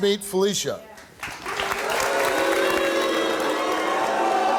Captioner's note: applauding; crowd boos